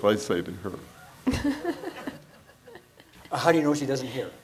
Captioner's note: laughs; audience laughs